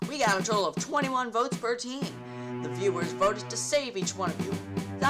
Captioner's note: none